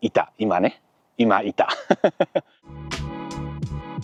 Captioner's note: laughs